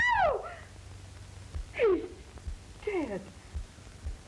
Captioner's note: scream